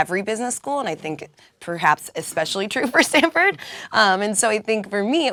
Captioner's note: laugh